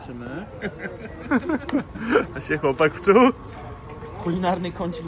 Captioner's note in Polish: śmiech